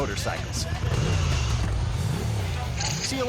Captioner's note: bike revving